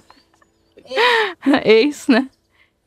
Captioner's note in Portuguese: Risos